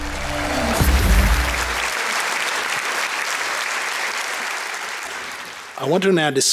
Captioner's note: applause